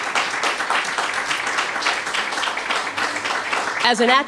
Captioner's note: applause